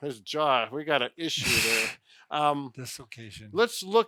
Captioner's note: laughs